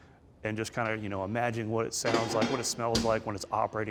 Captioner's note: mechanical clunking